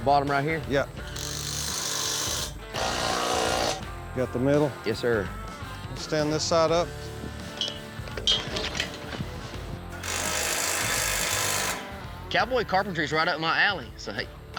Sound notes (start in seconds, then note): 1.0 drilling; 8.0 drilling